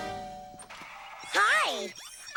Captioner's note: doorbell rings